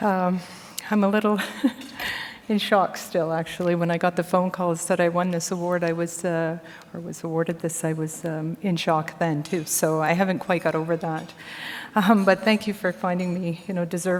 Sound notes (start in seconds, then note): 1.4 chuckles